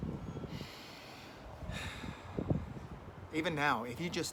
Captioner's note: deep breaths